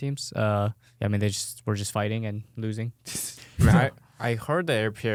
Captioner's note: laughs